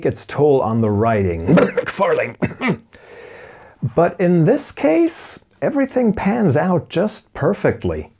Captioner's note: cough